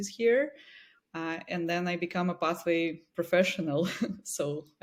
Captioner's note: chuckles